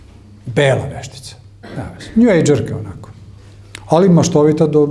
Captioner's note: coughs